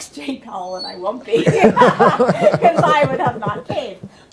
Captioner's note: laughter